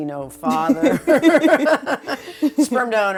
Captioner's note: laughing